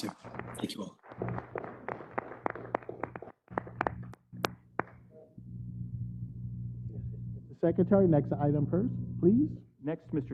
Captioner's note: applause